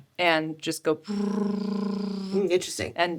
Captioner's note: trilling tongue